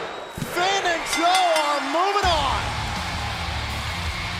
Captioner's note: bell ringing